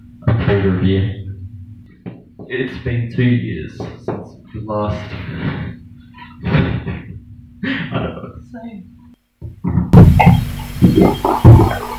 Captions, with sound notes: of Food Review It's been 2 years, Since the last- (Chuffed laughter) I don't know what to say (Audible gulping of the Green Tea)